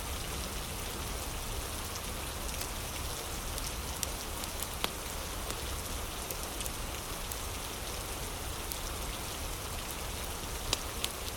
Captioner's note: fire crackling